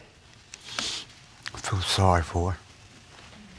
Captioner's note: sniffles